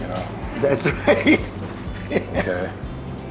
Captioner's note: laughs